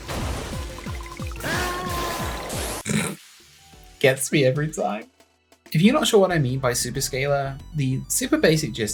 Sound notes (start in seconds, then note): 1.4 rally car explodes and man shouts; 2.8 snorts at car violence